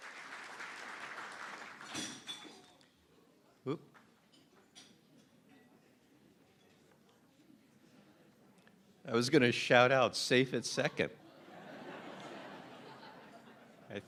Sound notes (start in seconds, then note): 3.2 applause; 12.8 laughter